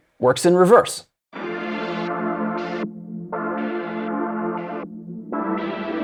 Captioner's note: sample plays in reverse modulation